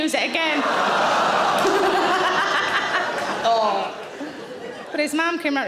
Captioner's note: audience laughing